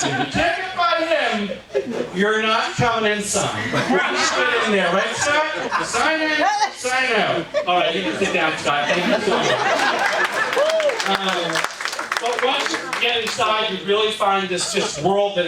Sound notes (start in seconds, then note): 9.6 audience applauds